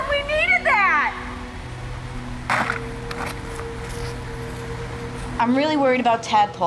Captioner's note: foil hits the ground